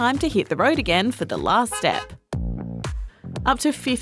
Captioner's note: honk-honk!